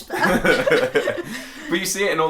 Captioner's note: laughing